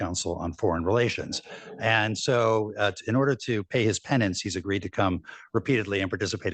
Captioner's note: laughter